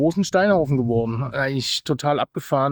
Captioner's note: speaking foreign language